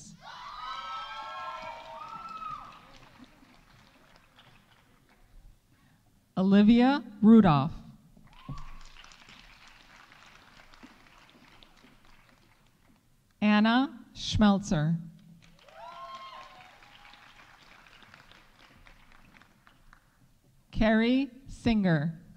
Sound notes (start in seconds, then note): 0.2 audience cheering; 0.8 audience applauding; 8.3 audience applauding; 15.4 audience applauding; 15.6 audience cheering